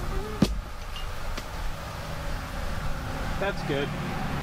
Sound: pumpkin plopping

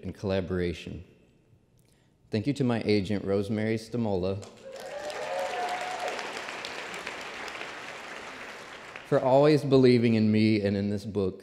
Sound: applause

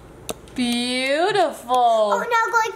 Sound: brush tapping

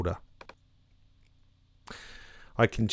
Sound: mouse click

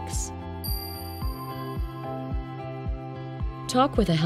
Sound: chime sounding

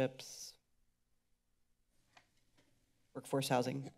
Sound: silence

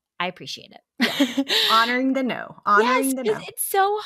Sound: laughs

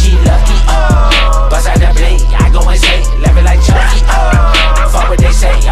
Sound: ha-ha-ha

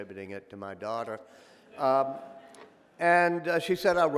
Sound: audience laughing

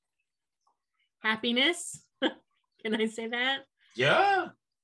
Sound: chuckles

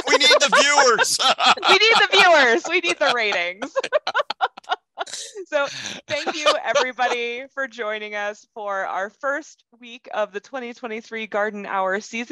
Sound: laugh

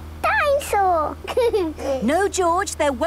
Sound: giggles

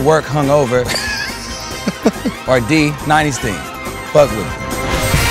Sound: laugh

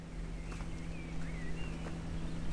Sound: birds chirping

